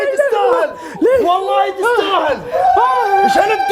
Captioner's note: panting